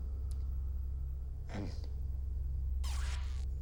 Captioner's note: throat clear